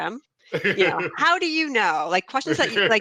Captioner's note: laughing